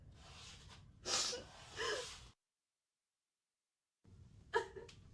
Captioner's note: Liz sniffling; Liz sobbing